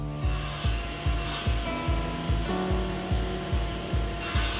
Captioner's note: router buzzing